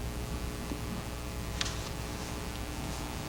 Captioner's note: paper rustling